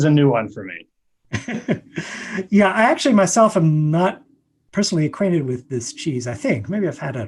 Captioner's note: laughs